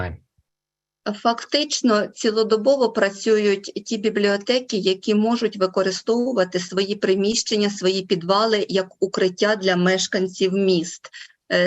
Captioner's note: foreign Language Spoken